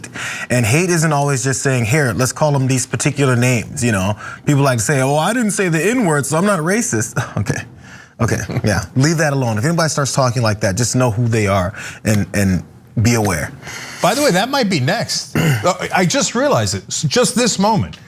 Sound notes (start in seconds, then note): 7.7 laugh; 15.3 cough